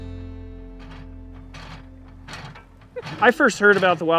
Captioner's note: gentle acoustic music; metal clunking